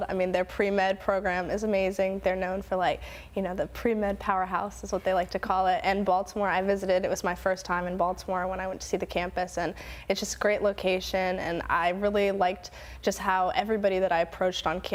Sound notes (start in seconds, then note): none